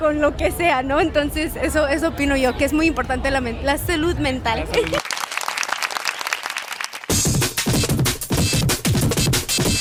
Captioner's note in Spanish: aplausos